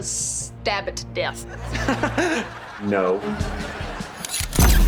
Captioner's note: laughing